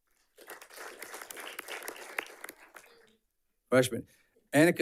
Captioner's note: audience clapping